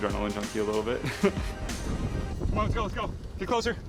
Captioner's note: laughs